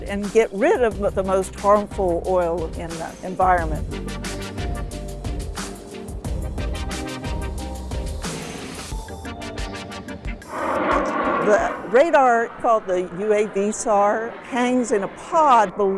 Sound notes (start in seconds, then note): 4.4 upbeat music; 10.4 plane roars